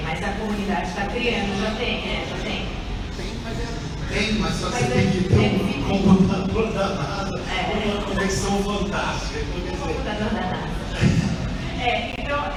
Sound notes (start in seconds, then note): 9.5 laughs